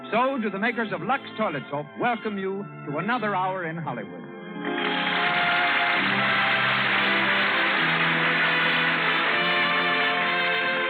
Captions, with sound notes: So do the makers of Lux Toilets Hope welcome you to another hour in Hollywood. [APPLAUSE]